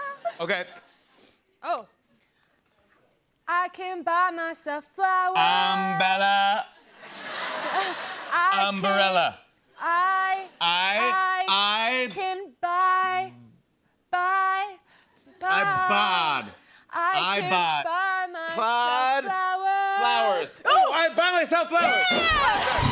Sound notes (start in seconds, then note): 6.9 laughter; 21.7 cheers and applause